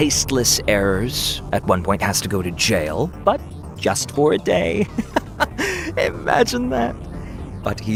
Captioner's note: laughs